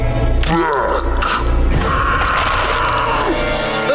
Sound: gasping, Rosa crying

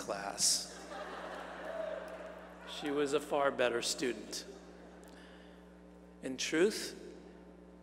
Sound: laugh

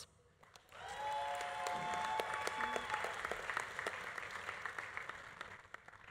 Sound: audience applauding; audience cheering

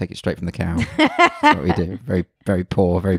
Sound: laughs loudly

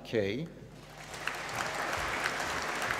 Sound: applause

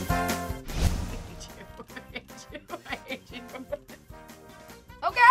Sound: upbeat music; laughing

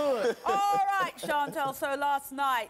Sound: laughing

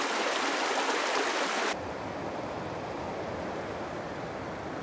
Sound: babbling creek sounds; deeper river and waterfall sounds

